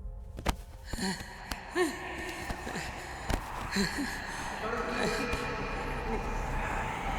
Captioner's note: panting